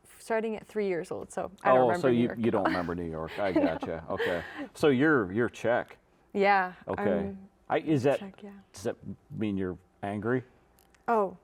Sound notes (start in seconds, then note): 3.2 giggling